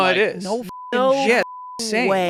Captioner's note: beep